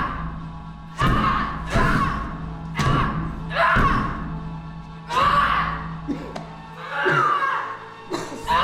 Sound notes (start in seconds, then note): 4.6 yelling